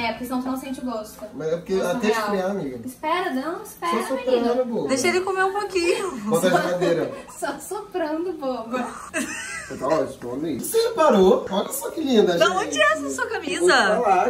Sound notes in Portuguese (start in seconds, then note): 8.7 Risos